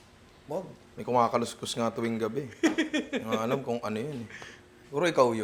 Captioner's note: laughs